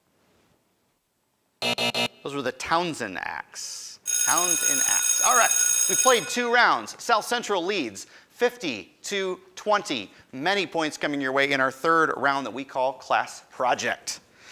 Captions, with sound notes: (end time buzzer rings) Those were the Townsend Acts. Townsend Acts. (school bell rings) Alright, we've played two rounds, South Central leads 50 to 20, many points coming your way in our third round that we call Class Project.